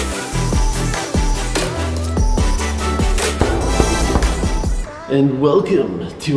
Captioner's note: knocking sounds